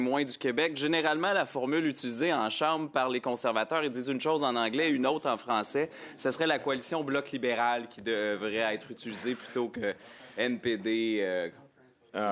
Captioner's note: speaking French